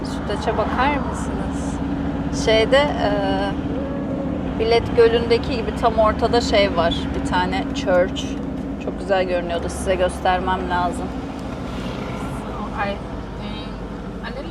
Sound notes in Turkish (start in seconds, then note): none